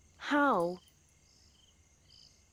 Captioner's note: crickets chirping